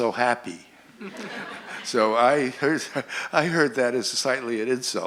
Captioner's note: laughter